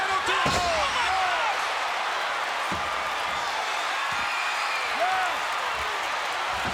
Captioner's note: crowd cheering